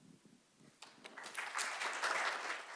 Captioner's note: applause